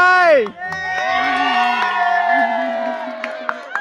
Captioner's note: cheers